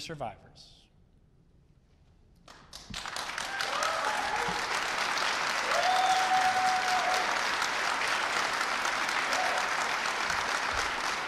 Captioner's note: applause and Cheers